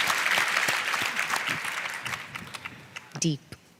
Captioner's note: applause